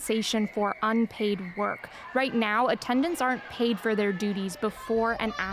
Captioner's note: chanting